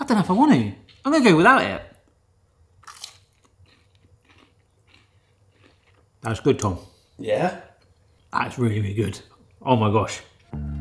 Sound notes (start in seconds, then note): 2.8 cone crunches